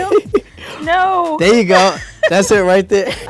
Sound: laughs

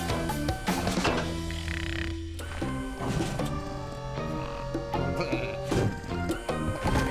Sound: snoring

